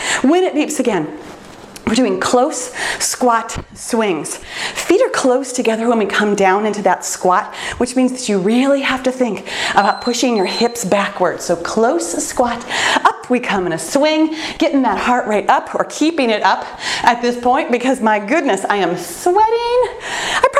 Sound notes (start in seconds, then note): 9.8 timer beeps